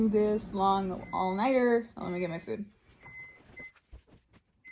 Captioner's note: microwave beeps